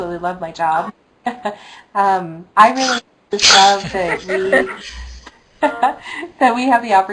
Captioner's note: laughs